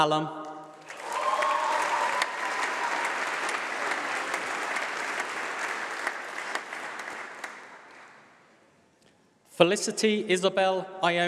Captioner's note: applause